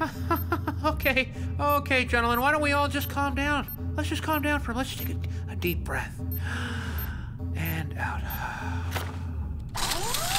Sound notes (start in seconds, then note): 0.0 nervous laugh; 6.4 taking a deep breath